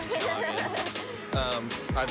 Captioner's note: nervous laughter